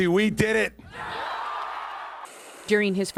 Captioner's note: cheering and applause